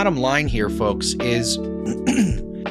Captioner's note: clears throat